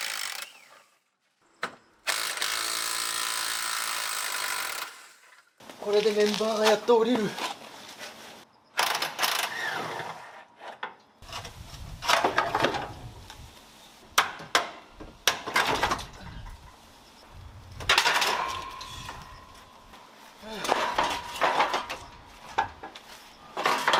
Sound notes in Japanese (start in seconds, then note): 9.5 作業音